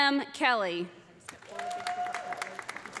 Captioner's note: audience applauding; audience cheering